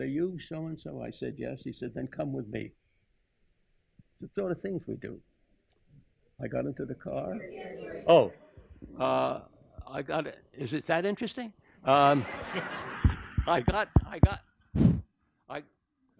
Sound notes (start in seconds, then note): 12.9 tapping the microphone